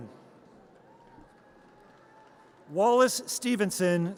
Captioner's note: audience cheers